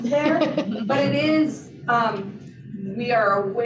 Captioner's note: laughter